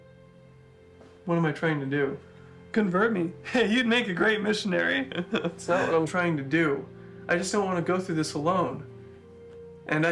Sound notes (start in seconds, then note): 0.2 soft music; 5.0 laughing